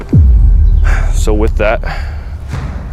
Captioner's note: sighs